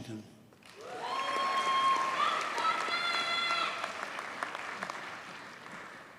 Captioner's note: audience cheers and applauds